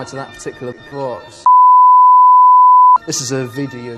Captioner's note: bars and tone